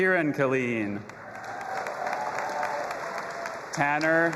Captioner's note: audience applauding and cheering